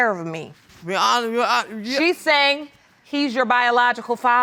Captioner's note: stuttering